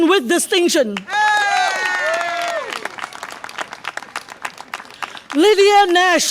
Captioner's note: audience applause and cheer